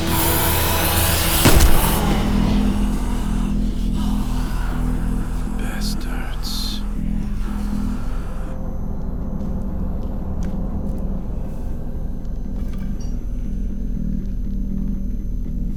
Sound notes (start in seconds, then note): 4.8 bang